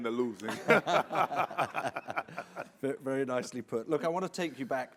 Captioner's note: all laughing